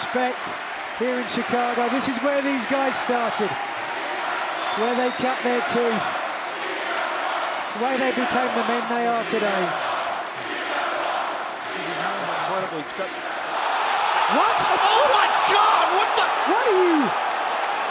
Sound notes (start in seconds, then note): 10.8 crowd cheering